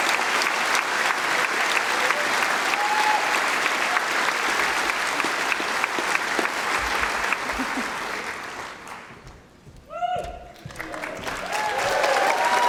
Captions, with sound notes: they had the simple words: Tony Benn, he encouraged us. That is simle justification for what I had done. (Applause)